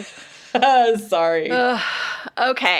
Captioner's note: laughs